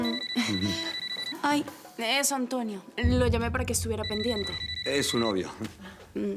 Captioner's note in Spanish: Suena el celular